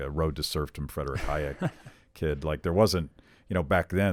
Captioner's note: laughs